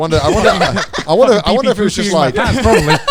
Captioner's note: everyone laughing